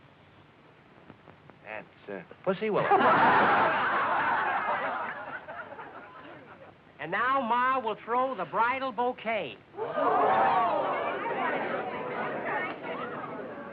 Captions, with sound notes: -That's, uh, pussy willow. [laughter] -And now Ma will throw the bridal bouquet. [chatter]